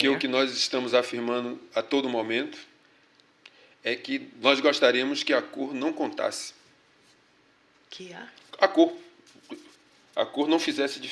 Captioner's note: speaking portuguese